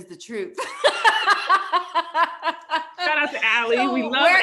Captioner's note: both laugh